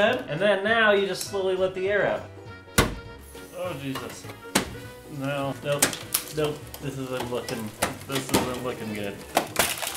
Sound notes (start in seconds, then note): 2.8 popping sound, as piece breaks off; 5.5 more popping and breaking